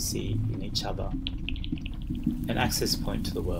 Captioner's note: soft clacking